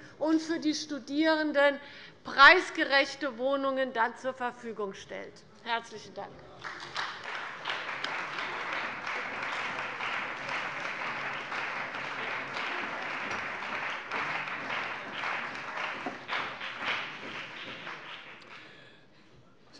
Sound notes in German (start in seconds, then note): 6.6 Beifall bei der CDU und dem BÜNDNIS 90/DIE GRÜNEN